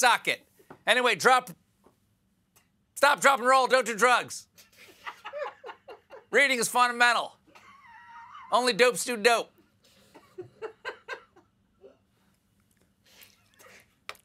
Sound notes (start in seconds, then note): 4.5 laughter